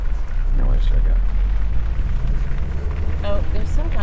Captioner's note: faintly speaking